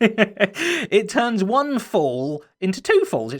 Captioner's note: chuckles